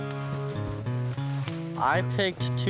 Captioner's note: corn rustling